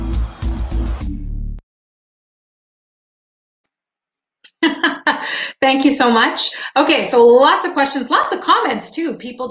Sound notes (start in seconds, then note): 4.5 laughing